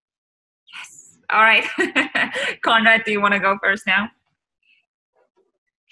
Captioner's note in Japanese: 笑い声